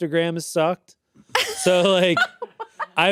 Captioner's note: laughs